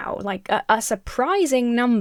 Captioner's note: none